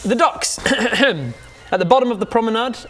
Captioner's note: ah-ah-ahem